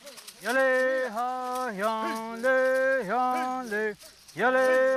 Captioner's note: chanting in Native language